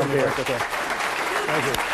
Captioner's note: applause